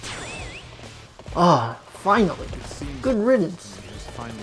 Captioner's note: relief sighs